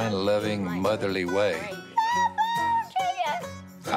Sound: squealing

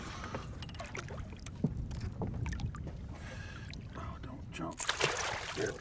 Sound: fish splashing

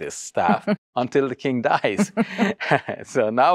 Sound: laughs

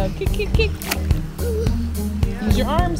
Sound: bright music; kids chattering; water splashes

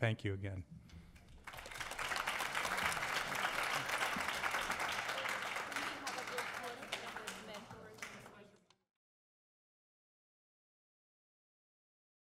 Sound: applause

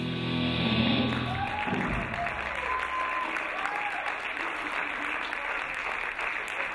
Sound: applauding; cheering

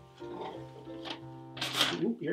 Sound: paper rustling

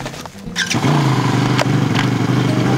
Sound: engine revving

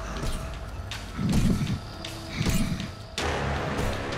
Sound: grunting

